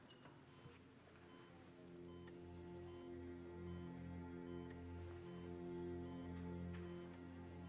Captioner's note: monitor beeping